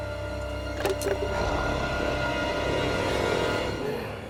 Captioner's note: Loki growls